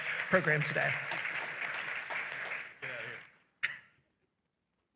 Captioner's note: applause